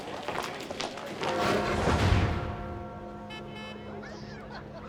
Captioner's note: tower bell ringing